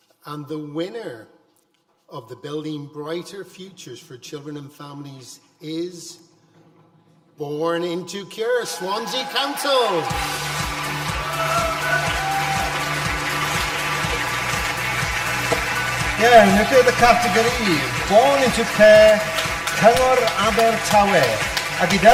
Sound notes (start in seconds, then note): 10.7 audience applause; 10.7 upbeat music